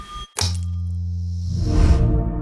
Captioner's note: gentle music; switch clicking; gentle music